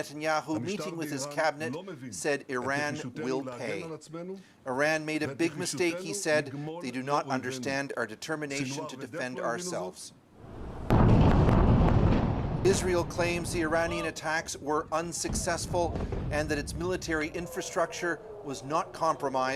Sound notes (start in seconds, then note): 0.6 speaking alternate language